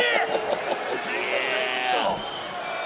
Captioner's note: chuckles